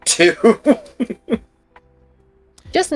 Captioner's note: laughing